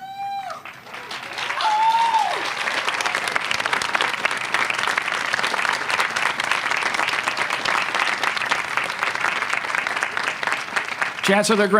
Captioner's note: Masters candidates stand, applause and cheers